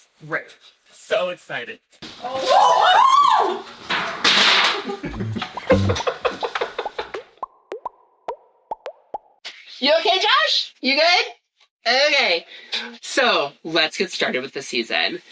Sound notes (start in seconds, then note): 2.2 screaming; 3.9 crash Clang; 4.8 laughing